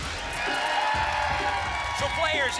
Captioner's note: applause and cheering